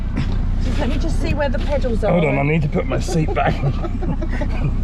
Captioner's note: laughing